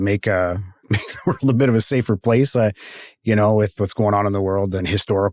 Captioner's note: chuckles